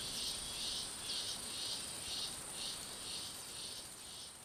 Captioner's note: birds squawking, insects buzzing; frogs chirping